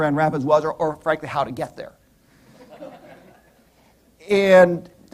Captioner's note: laughter